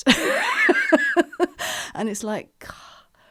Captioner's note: laughing